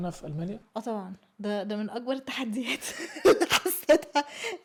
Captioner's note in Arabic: ضحك